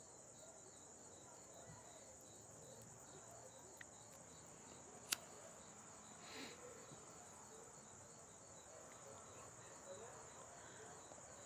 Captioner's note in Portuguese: grilos